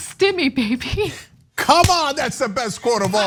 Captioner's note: laugh